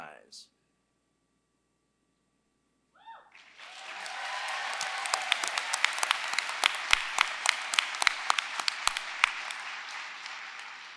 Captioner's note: applause